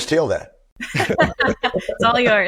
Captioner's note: laughs